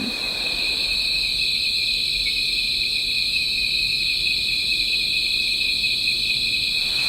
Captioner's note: crickets chirping